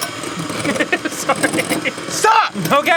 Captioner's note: laughing